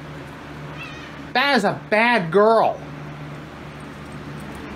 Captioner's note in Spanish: Caprice maúlla